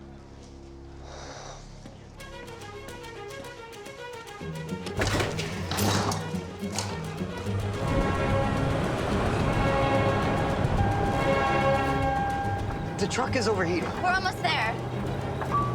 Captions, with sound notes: (sighs) (beeping) - The truck is overheating. - We're almost there.